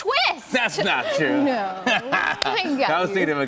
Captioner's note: laughter